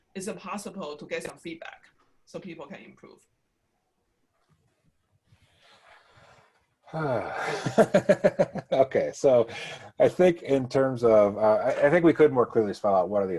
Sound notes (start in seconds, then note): 6.9 sighs; 7.0 laughs